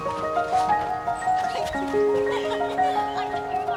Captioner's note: girls laughing